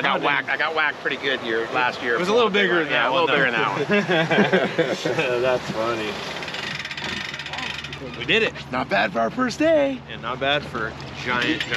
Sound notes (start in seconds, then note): 6.1 laughing; 8.1 winch cranking